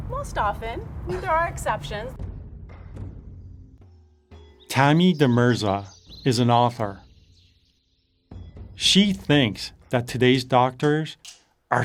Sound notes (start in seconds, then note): 0.0 tense drumming music; 7.4 birds chirping